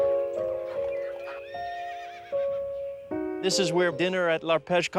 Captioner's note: neighing